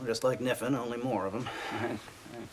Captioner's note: nervous laughing